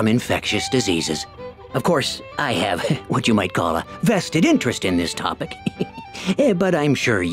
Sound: chuckles

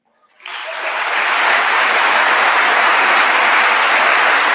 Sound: audience applauding

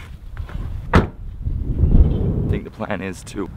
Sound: door slams

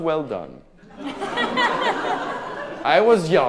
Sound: audience laughing

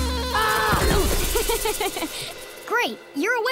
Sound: laughing

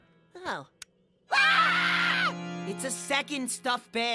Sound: everybody screams again

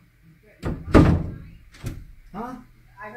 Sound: door closes, then opens

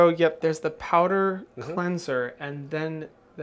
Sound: none

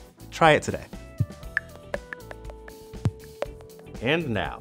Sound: clicks, bops

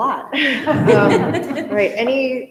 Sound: all laughing

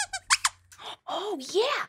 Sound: squeaks squeaks

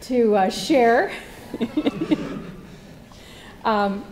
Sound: laugh

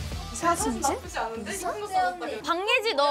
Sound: murmuring at the news of a promotion

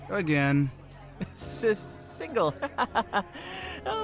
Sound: nervous laugh

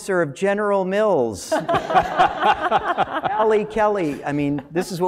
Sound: laugh

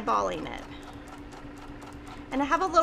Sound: machine whirring

